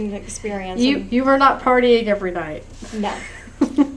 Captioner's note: laughter